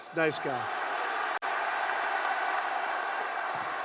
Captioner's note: applause